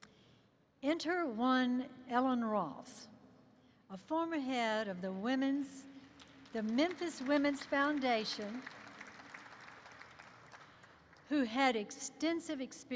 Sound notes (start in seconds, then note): 8.1 applause erupts